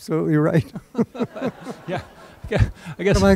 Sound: laughter

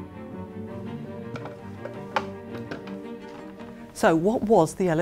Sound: rattle of paint tubes in plastic pot

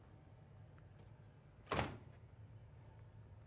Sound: door closes

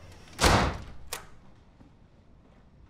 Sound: door locks

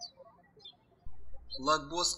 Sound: birds chirping

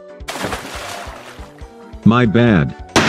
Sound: off-screen splash

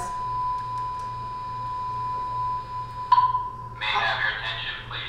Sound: alarm buzzing loudly; voiceover

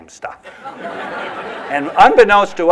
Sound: laughter

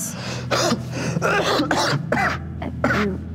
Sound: violently coughs

